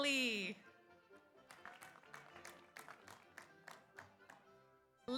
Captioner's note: audience applauds